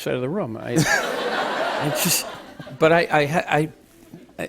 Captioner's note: laughter